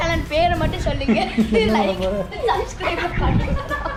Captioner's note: giggling